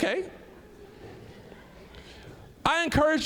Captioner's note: audience laughing